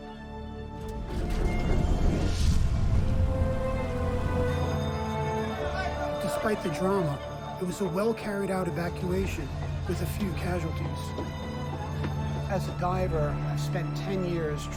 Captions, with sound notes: (dramatic music) (alarm bell ringing) (people shouting) Despite the drama, it was a well-carried out evacuation with a few casualties. As a diver, I've spent 10 years